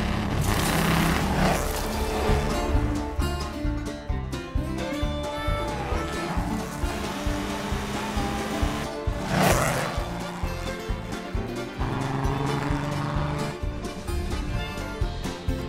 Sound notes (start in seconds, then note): 0.0 tires squeal; 2.3 instrumental country music plays; 10.8 engine grumbles intensifies